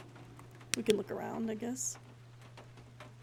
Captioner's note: flashlight Clicks On